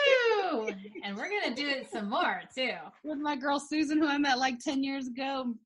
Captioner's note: laughing